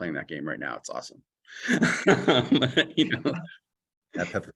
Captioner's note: laughter